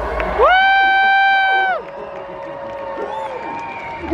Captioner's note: crowd cheering